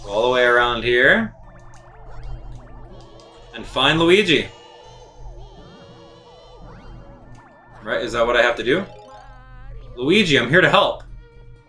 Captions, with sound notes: all the way around here and find Luigi, (gaming sounds) (instrumental music) Alright, is that what I have to do? Luigi? I'm here to help.